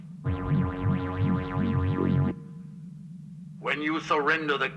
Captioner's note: energy warbling